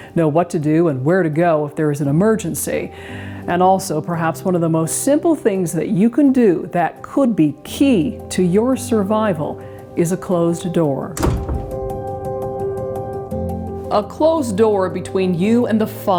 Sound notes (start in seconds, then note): 11.1 door closes